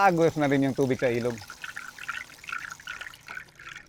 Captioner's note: mimics the sound of a river flowing